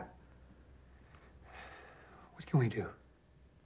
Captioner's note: sighs